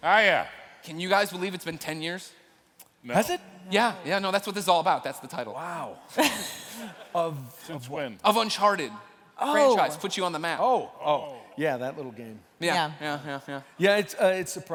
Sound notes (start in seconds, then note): 6.1 laughter